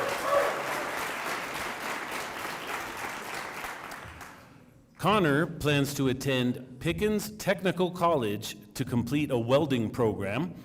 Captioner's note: applause